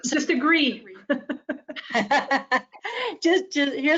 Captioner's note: laughs